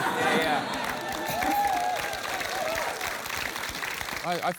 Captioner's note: applause